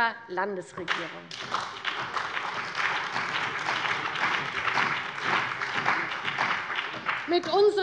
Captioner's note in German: Beifall bei der CDU und dem BÜNDNIS 90/DIE GRÜNEN